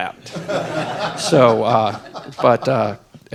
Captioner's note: laughter